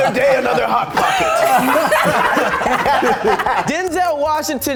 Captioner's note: all laughing